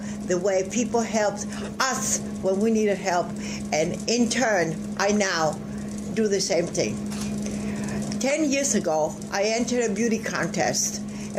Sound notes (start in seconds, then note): 7.0 camera shutter clicks